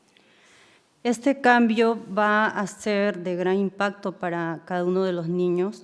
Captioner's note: speaking in foreign language